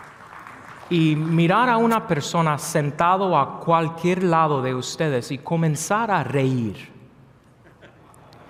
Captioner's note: applause; speaking non-English lnaguage